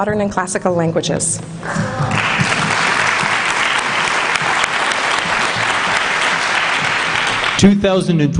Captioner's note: applause